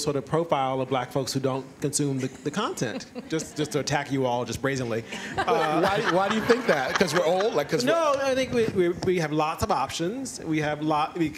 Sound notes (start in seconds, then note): 5.1 laughter